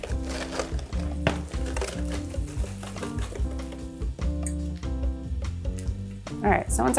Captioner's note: funky music; water splashing; box rustles; pot thuds